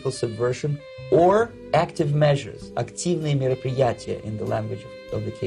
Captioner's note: speaking Russian